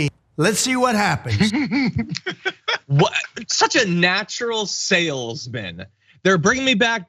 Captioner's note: laugh